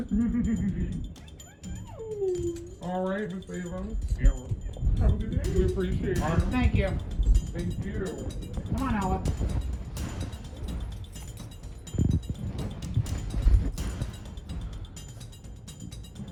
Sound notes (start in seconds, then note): 1.1 altered/distorted; 8.5 altered/distorted